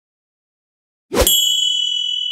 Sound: ding!

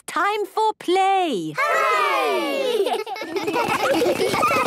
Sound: laughter

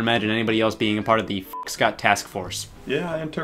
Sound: beep

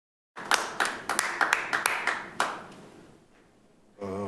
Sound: light applause

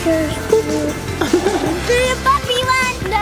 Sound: laughs

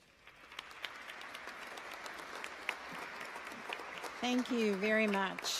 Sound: audience applauds

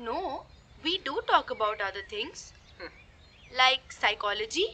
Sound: snickers

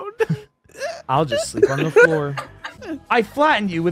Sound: laughter

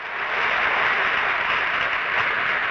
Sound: audience applause

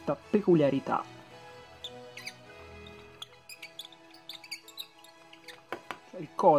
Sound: squeaking noise

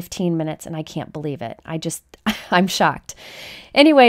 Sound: chuckles

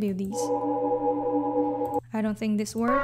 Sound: ship ambience

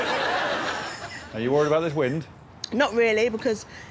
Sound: laughter

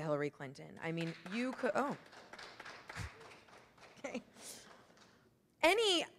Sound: audience applauds

